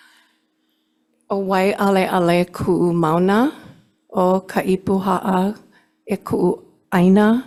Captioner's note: speaking in foreign language